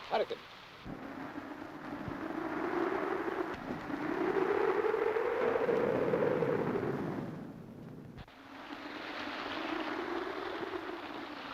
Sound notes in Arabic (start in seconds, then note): 1.0 هبوب الريح; 6.4 رش الماء; 6.4 هدير الريح